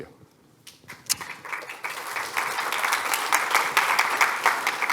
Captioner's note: applause